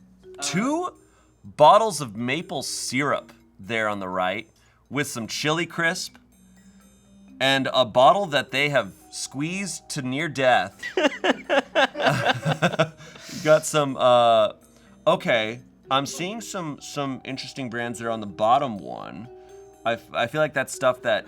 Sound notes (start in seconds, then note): 10.7 laughs